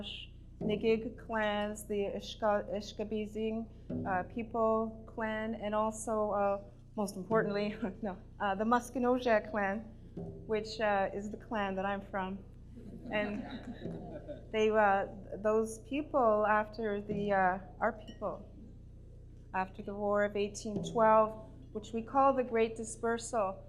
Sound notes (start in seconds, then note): 8.0 laughs; 12.9 laughter